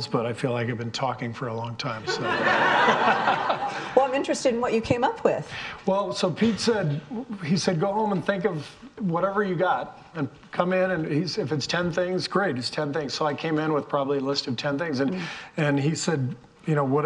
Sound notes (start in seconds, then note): 2.0 all laughing